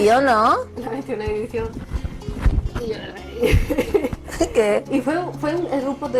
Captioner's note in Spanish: risas incómodas